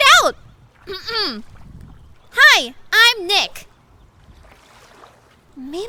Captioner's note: clearing throat